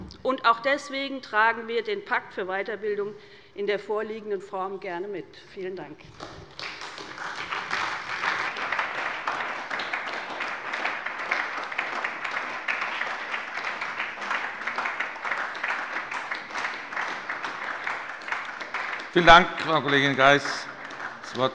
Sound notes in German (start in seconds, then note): 6.0 Beifall bei der SPD